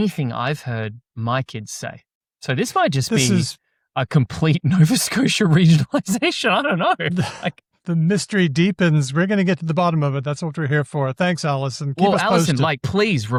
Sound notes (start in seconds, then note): 5.5 laughs; 5.5 chuckles